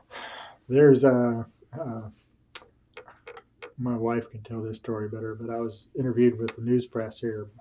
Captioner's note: laughs